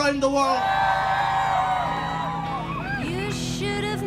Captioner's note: applause